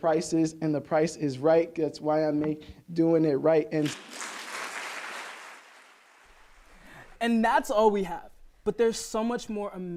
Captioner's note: applause